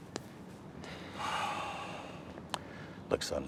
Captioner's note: sighs